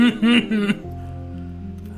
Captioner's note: laughs